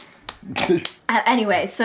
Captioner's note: clapping